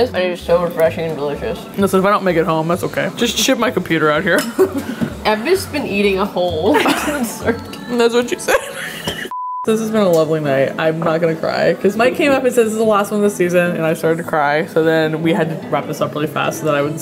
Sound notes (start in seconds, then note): 8.4 laughing; 9.3 beeps